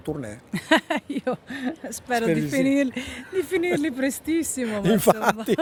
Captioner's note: laughter